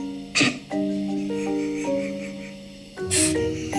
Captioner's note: Tammy laughing